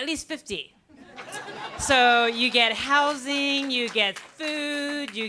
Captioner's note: laughter